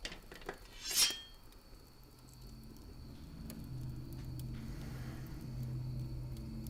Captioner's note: knife rasps; tense droning